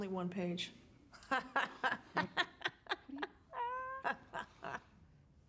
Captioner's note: laughing